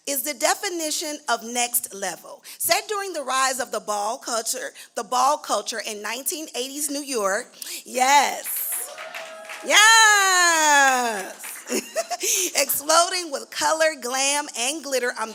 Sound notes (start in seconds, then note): 8.4 cheering; 10.6 laughs